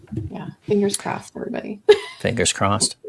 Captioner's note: laughs